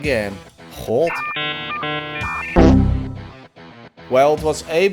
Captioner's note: computer error sounds